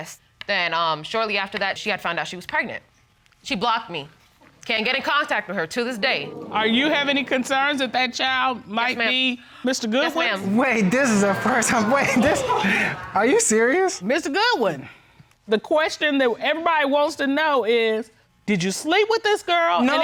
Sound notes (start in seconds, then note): 10.2 all hooting; 10.3 laughs